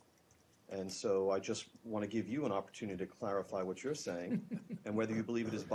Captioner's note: laughter